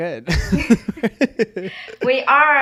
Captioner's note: person laughing